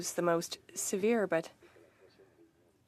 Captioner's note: speaking French